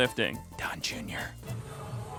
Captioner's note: whispering